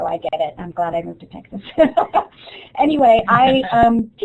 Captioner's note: laughs